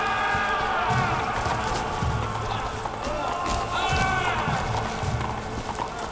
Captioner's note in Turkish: At kişneme sesi; Bağırma sesleri